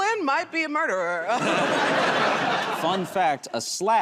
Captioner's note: laughter